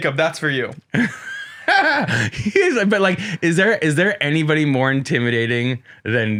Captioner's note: laughs